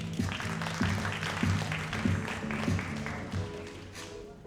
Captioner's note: audience applauding